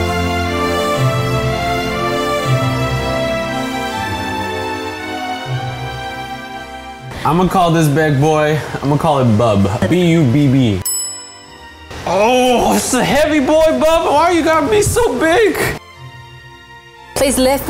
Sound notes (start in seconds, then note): 10.8 dings; 16.3 enchanting music